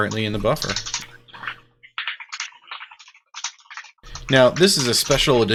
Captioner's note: keyboard keys clanking